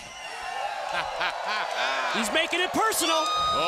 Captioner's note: crowd cheering